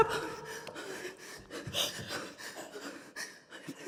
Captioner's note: performers breathing